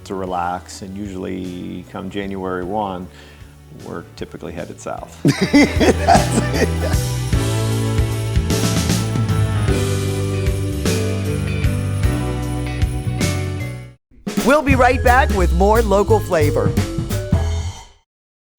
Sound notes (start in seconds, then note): 5.2 laughing; 5.2 upbeat music